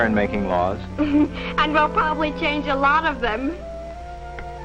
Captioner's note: giggles